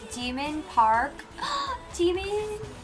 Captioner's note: gasps